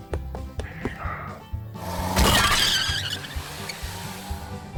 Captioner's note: bus engine. Tires squealing